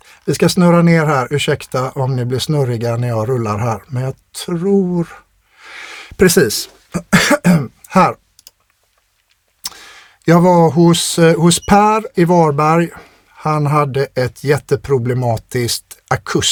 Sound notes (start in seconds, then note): 6.9 clears throat